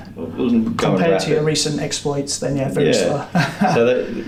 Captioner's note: chuckles